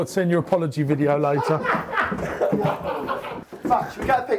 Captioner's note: laughing